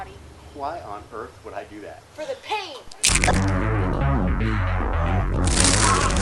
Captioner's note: crunch!; crunch